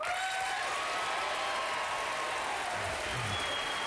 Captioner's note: applause